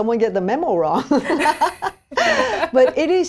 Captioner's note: women laughing